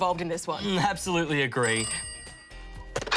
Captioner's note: phone rings